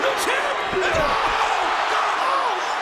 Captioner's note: audience cheering